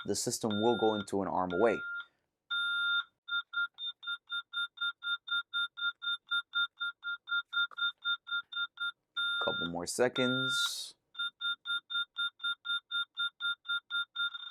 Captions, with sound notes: the system will go into an Arm Away. [ALARM BEEPING] Couple more seconds. [ALARM BEEPING]